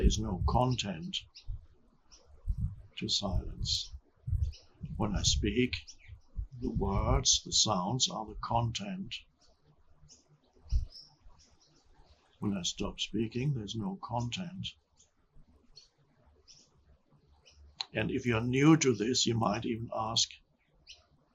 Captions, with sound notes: there is no content to silence. When I speak the words, the sounds are the content. When I stop speaking, there's no content. (birds chirping) And if you're new to this, you might even ask,